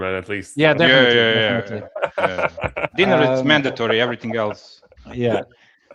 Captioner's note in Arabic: ضحك